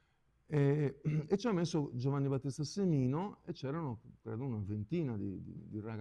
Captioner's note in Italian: schiarire la voce